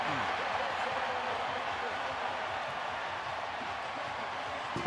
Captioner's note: cheers, applause